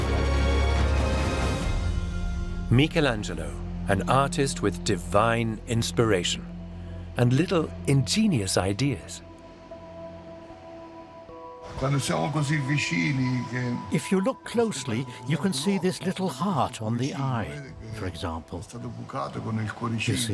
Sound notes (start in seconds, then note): 0.2 epic music fades out; 11.0 in Italian